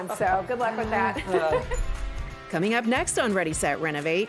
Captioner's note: laughter